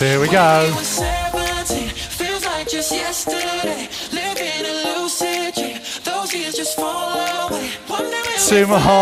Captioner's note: breathing heavily